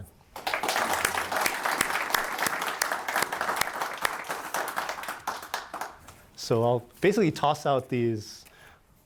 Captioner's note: applause